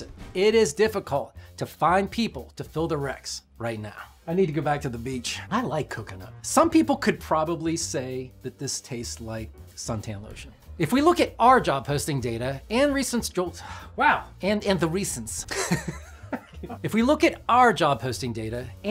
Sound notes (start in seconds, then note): 15.5 laughs